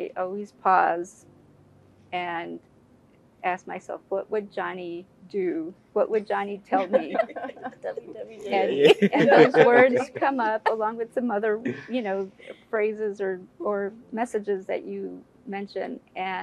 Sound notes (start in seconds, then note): 6.7 laugh